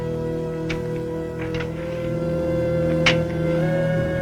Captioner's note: gentle music; spade digging; suspenseful music